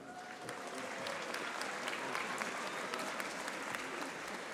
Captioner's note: audience applauding